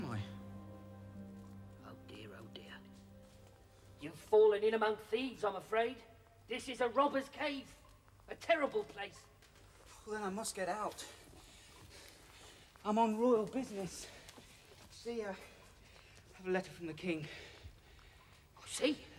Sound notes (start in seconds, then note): 11.0 panting